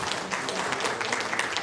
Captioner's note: applause